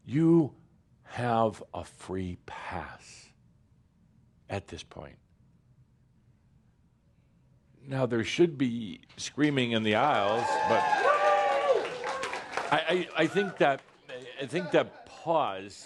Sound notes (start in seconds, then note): 5.9 slight pause; 12.8 now some screaming and applause